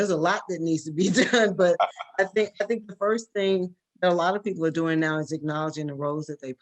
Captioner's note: laugh